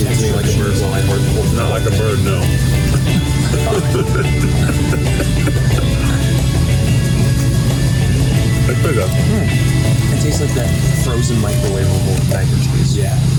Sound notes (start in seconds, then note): 2.7 both laugh; 3.4 upbeat music